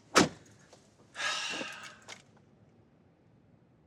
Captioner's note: sigh